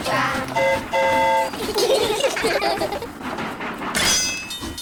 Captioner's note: train horn toots; all giggle